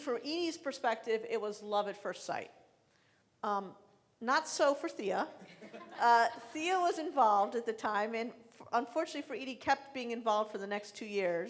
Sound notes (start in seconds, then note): 5.4 laughing